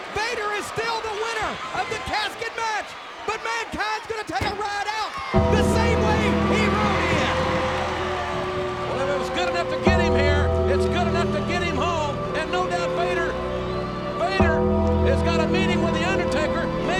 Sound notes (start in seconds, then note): 6.6 ominous music; 7.4 audience cheers